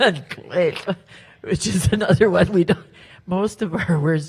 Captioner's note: speaks Halkomelem